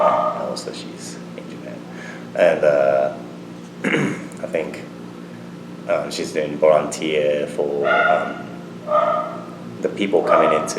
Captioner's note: clears throat